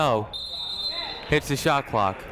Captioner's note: whistle blows